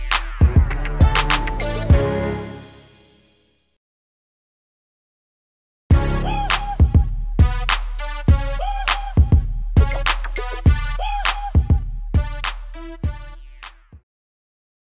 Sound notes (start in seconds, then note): 0.0 club music; 2.7 music stops; 5.6 beat drops; 5.9 club music continues